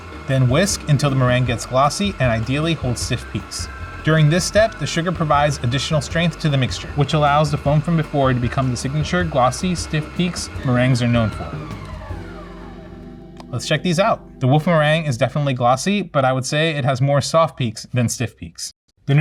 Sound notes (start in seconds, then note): 12.6 mixer stops; 13.6 jazz music ceases